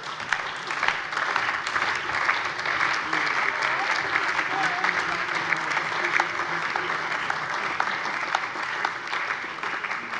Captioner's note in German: Heiterkeit - Allgemeiner Beifall